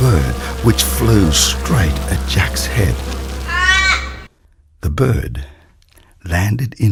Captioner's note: bird screeches